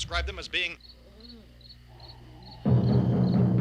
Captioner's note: insects chirping; foreboding instrumental music